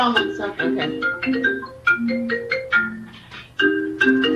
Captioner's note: phone ringing